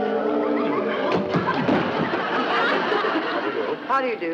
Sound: audience laughs

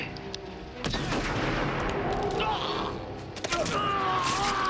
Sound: gunshot firing

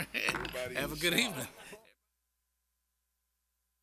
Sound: laughter

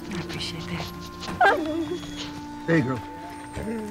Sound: dog barks

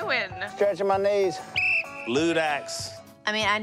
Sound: whistle blows

